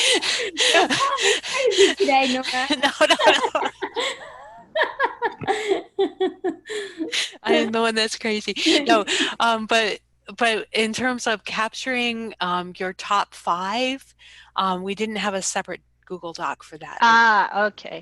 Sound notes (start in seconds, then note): 0.0 laughs; 2.3 laughter; 2.9 laughs; 9.0 laughs